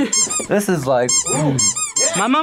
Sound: toy squeaks

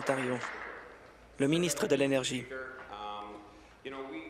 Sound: applause

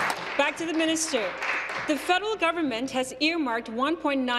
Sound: applause

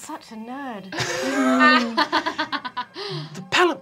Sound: laughing

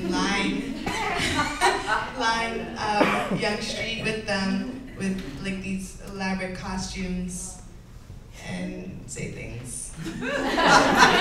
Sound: laughter

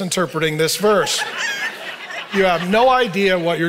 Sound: audience laughing

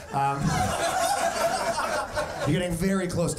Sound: audience laughing

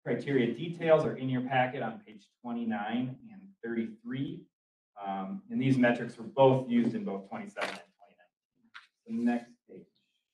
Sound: papers crinkle

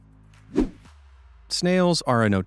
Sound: swoosh

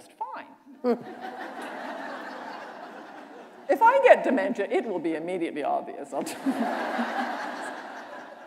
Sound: laughter

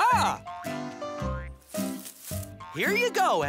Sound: rustling

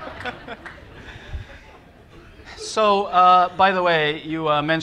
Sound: laughter

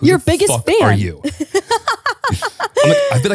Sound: laughing

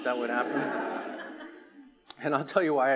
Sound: attendees laughing

